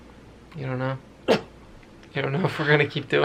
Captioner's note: snorts